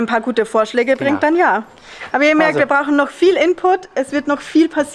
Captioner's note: laughter